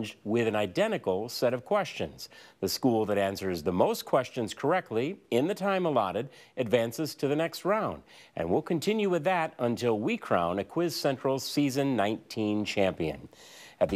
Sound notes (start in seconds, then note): none